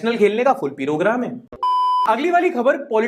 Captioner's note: beep